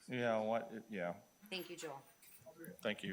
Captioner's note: speaks distantly